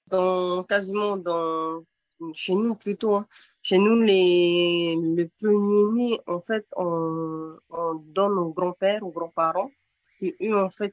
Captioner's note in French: En français